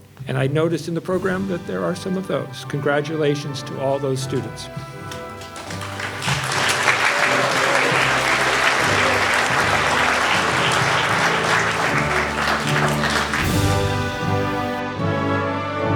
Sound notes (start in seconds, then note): 5.0 all clapping; 14.0 orchestral music